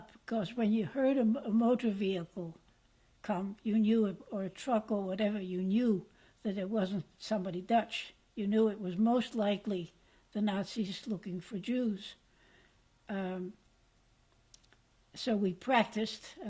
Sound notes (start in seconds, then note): 11.9 pauses for 3 seconds